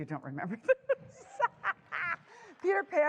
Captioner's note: laughter